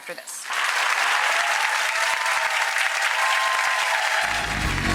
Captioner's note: audience applauds